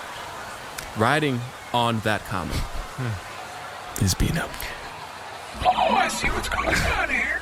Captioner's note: whispering loudly